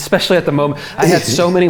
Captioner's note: laughing